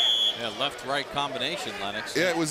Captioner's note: whistle blows